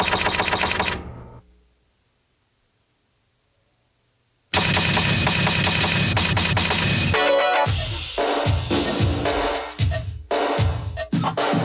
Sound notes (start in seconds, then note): 0.0 words typing; 4.6 words typing; 7.0 upbeat pop music